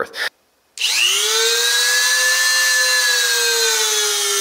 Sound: drill whirring

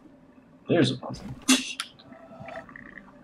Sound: laughs softly

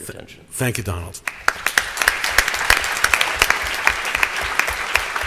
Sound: applause

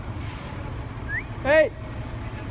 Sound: whistling

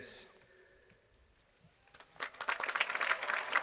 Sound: applause

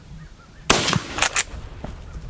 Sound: gun fires

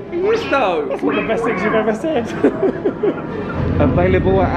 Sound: laughs

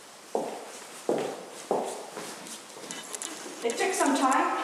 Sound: heels clacking

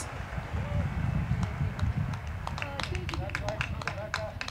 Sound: crowd clapping

